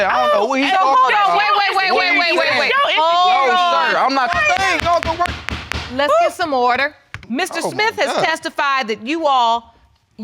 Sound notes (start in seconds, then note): 2.7 gavel strikes